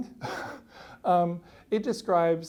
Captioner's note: laughs